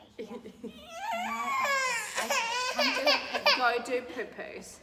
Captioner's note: crying